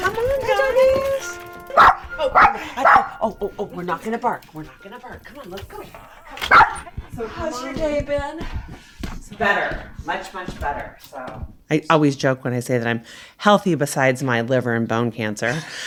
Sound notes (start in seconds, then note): 1.7 dog barking; 6.3 dog barking